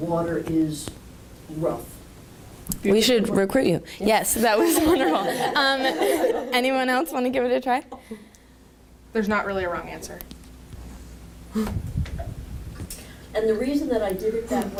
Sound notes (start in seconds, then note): 4.6 speakers laugh